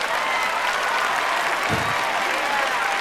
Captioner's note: cheering